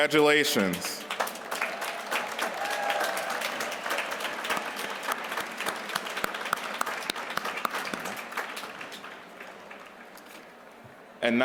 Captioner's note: applause